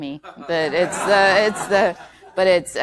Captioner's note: laughter